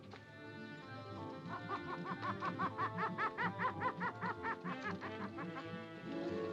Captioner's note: monkey hoots; ominous music